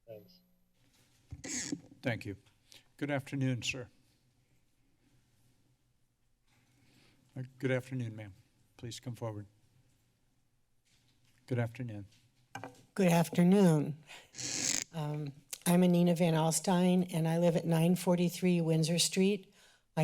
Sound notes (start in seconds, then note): 4.2 silence